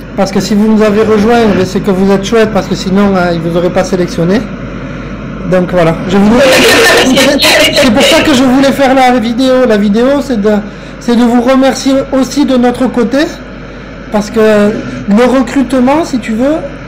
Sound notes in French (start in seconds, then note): 6.2 rire